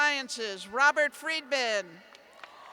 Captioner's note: cheers